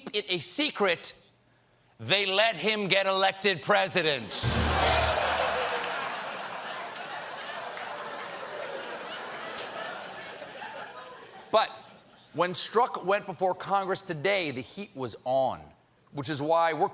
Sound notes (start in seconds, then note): 5.2 laughter